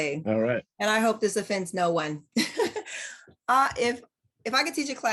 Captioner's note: laughs